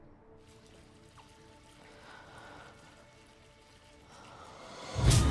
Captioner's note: breathing heavily